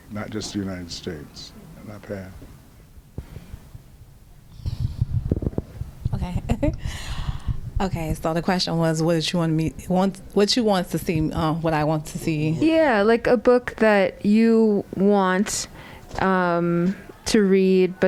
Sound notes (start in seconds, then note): 2.4 laughter